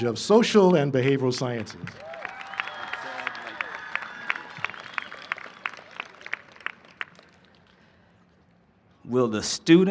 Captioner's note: applause